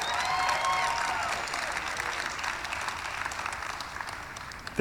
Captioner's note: cheering; applause